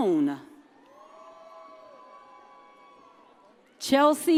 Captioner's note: audience cheers